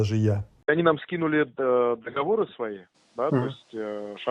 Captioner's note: on phone